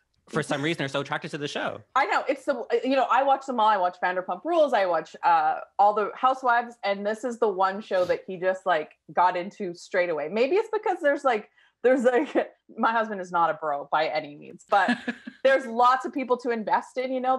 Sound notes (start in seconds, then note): 14.7 laughing